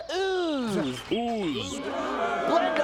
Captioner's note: crowd booing